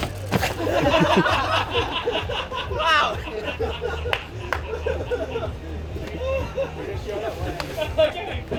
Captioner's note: laughter